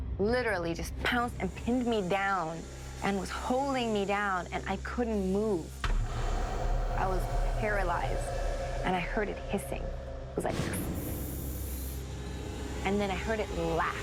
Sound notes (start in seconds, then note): 10.4 making hissing sound